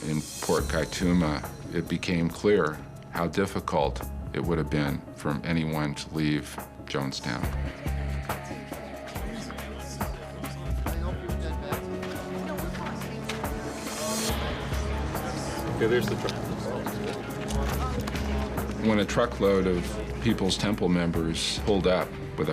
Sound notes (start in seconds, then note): 7.8 casual conversation